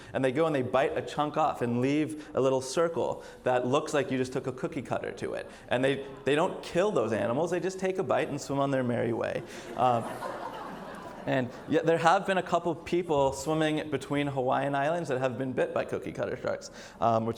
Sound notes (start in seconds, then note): 9.3 audience laughs